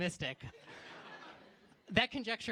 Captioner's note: laughter